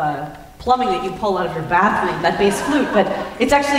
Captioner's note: laughter